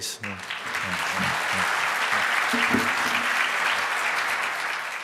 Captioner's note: applause